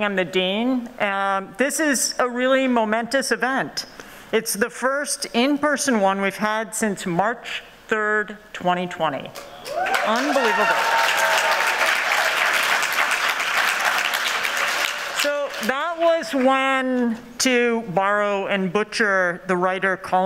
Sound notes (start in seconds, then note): 9.6 cheering